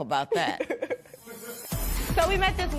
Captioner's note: laughs